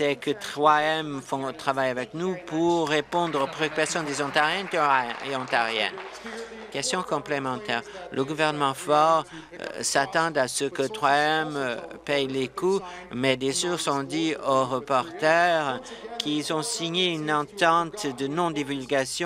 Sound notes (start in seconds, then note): 6.6 applause